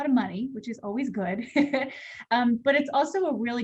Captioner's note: laughter